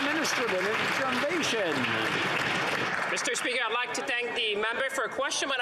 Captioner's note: some Applause